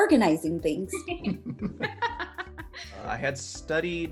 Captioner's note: all chuckle